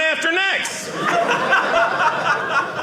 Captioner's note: audience laughing